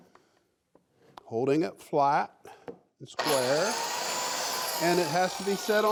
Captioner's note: saw whirring